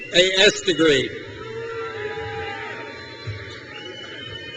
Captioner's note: crowd cheers